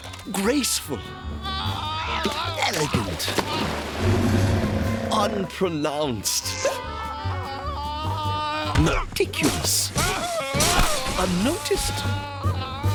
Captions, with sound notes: GRACEFUL. ELEGANT. UNPRONOUNCED. (screaming) METICULOUS. UNNOTICED.